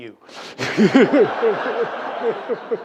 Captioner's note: laughter